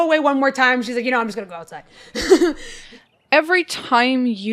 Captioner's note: chuckles